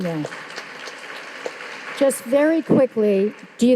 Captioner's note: audience applauding